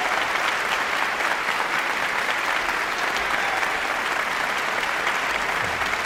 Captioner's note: audience applauding continues